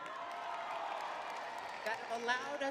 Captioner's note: crowd cheering